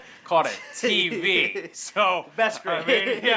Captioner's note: laughing